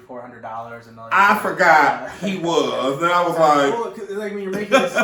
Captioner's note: laughs